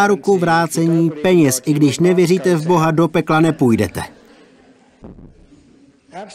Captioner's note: laughter